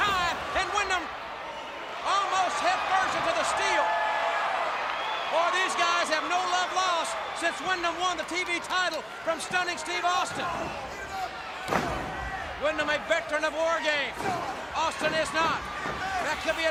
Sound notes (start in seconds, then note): 4.0 crowd cheering; 10.2 crowd chatter